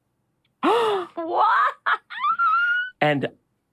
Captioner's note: laughs; surprised